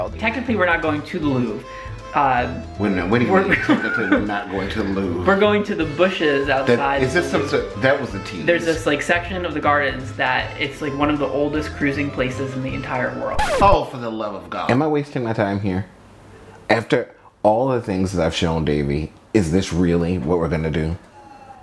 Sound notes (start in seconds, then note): 13.2 record scratches